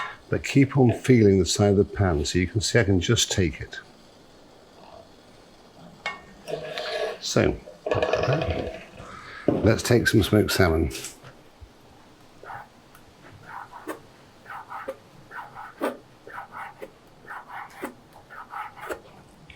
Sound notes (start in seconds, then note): 12.5 knife scraping